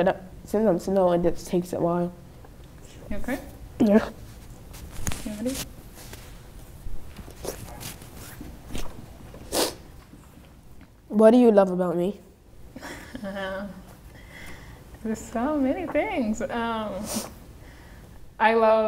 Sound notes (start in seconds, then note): 9.5 sniffling; 12.8 chuckling